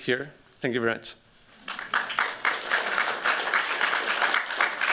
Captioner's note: applause